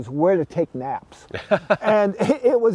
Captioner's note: laughing